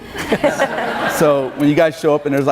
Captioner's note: laughing